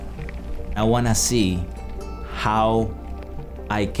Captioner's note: none